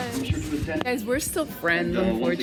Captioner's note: intercom announcements in background